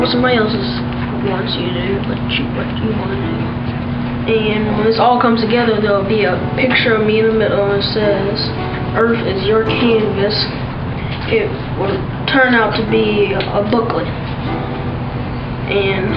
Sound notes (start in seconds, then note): none